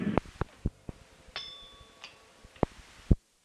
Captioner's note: bell Sound